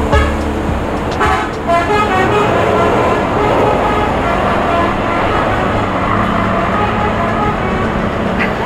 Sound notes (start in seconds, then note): 0.0 horn honking